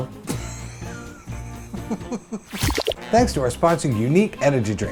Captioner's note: laughs